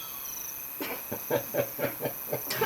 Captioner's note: coughing - Gagging; laughs